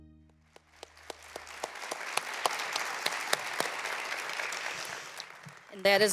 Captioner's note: applause